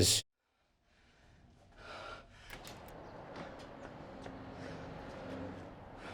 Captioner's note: breathing heavily